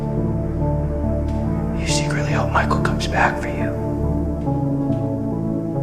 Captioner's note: whispers